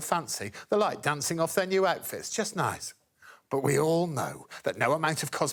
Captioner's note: none